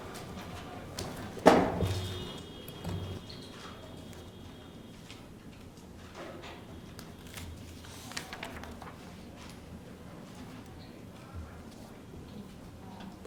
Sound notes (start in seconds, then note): 2.8 door closing; 9.7 paper flipping